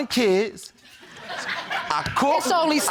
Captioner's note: audience laughs